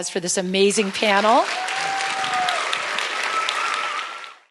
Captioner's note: applause